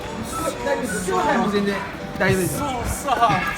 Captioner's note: passerby's speaking Japanese